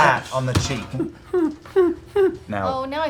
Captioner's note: whimpers